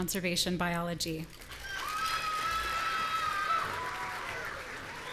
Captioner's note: audience cheering